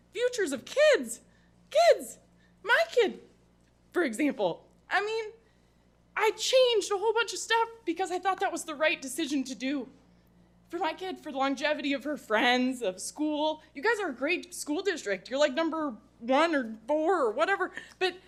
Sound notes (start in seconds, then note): none